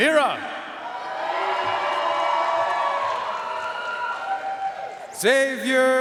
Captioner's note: audience cheering and applauding